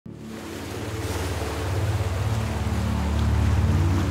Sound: waves roaring; deep reverberating music

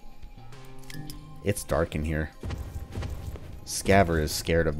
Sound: solar Lantern hums

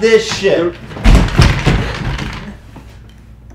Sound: chair falling

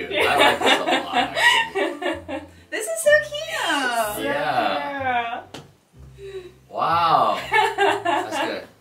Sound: laughs

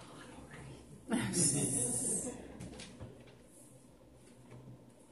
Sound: congregation laughing

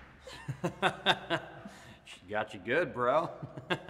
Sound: Jared laughs

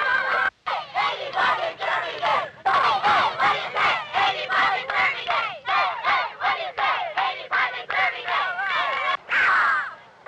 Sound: crowds chanting

